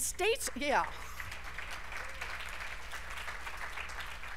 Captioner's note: applause